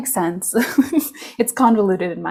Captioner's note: chuckles